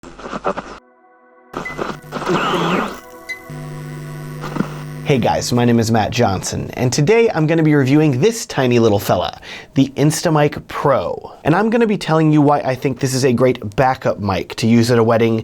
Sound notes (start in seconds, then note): 0.7 peaceful music; 1.5 static crackling; 1.5 electronic whirring; 4.0 light bulb buzzing